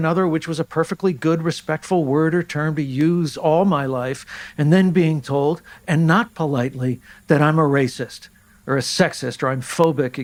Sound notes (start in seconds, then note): none